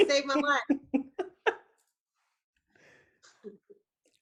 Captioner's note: laughs